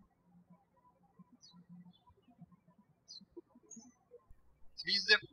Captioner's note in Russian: птички щебечут